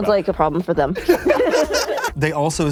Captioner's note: laughter